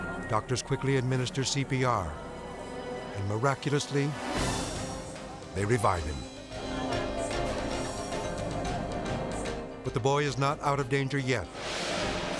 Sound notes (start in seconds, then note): 7.0 group chattering